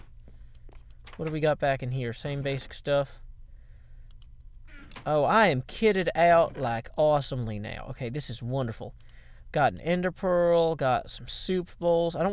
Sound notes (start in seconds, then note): none